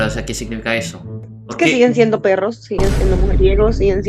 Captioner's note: Spanish; Spanish